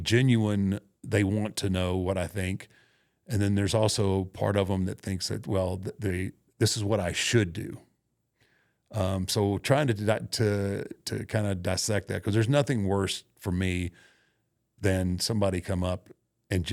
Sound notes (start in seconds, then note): none